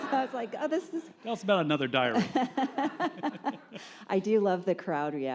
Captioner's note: laughs